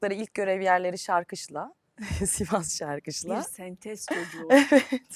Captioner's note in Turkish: kahkaha